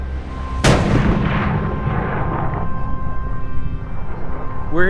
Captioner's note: gunshot